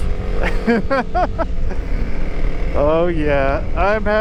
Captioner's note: laughs